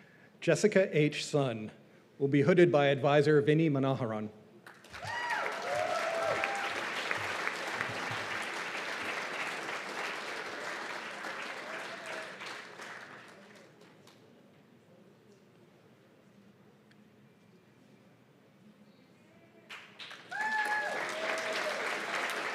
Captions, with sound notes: Jessica H. Sun will be hooded by Advisor Vinny Manoharan. [CHEERS AND APPLAUSE]